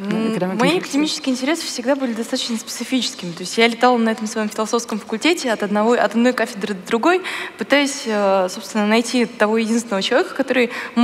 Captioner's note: foreign Language